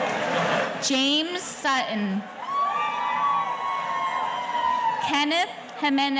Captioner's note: audience cheering